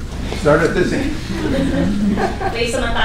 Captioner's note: laughter